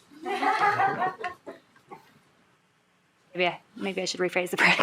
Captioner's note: shared laughing